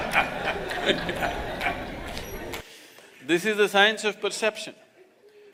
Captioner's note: laughter